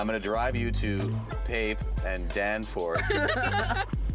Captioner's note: laughing